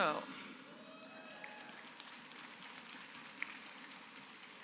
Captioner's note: applause